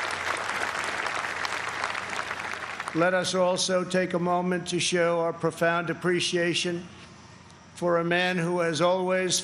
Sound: applause

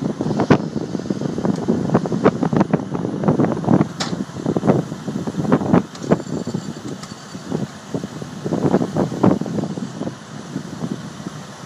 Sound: chains popping load weight

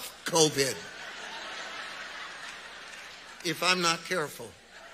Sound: audience laughs

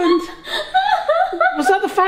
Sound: laughing

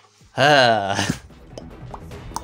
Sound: sigh

